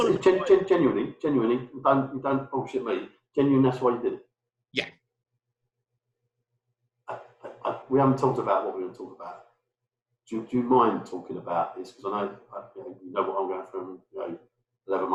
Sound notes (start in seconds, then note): 3.4 murmurs